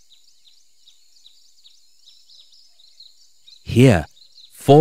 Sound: birds singing

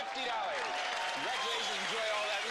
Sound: applause

